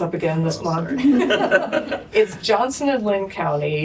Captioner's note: laughter